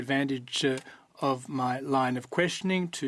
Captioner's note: speaking French